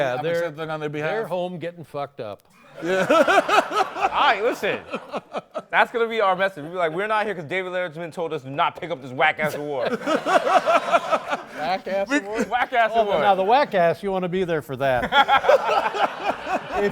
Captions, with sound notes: Yeah. I'm accepting it on their behalf. They're home getting fucked up. [LAUGHTER] All right, listen, that's going to be our message. We'll be like, we're not here because David Letterman told us not to pick up this whack-ass award. [LAUGHTER] - Whack-ass award? - Whack-ass award. Now the whack-ass, you want to be there for that. [LAUGHTER]